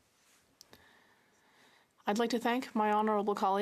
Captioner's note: speaking French